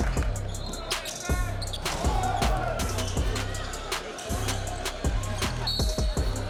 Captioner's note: crowd cheering; hip hop music; crowd cheering; whistle blowing; hip hop music continues; whistle blowing